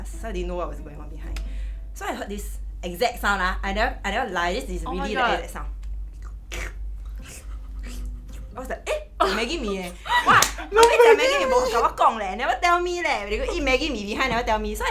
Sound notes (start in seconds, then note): 7.0 slurp